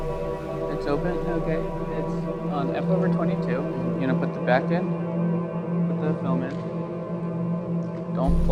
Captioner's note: technical chatter